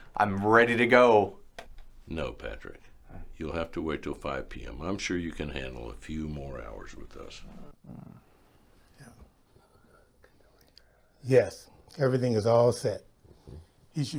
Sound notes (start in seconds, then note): 7.8 Patrick groans; 9.6 Dr. Jamison whispers